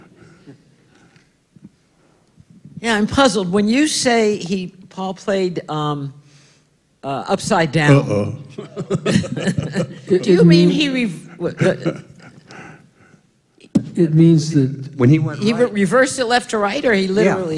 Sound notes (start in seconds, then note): 8.5 laughter